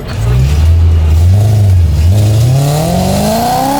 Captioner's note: car engine roars